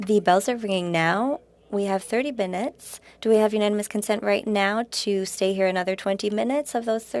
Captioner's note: speaking French